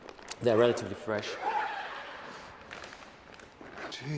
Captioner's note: zipper opens